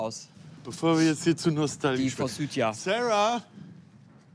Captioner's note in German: laut